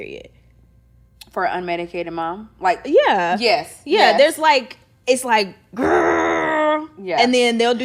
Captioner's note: growls